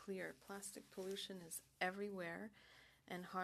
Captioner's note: speaking French